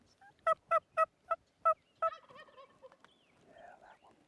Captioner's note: turkey calling